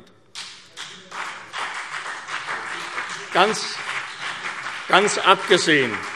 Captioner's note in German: Beifall CDU und BÜNDNIS 90/DIE GRÜNEN